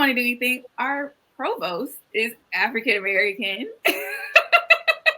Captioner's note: laughs